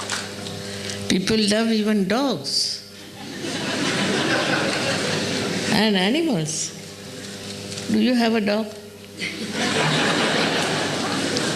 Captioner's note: laughter